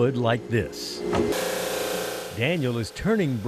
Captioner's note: saw whirring